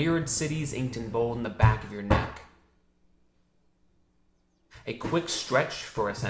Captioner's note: palm slamming